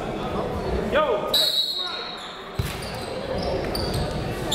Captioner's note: whistle